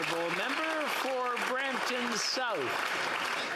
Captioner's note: applause